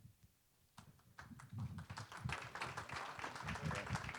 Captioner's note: applause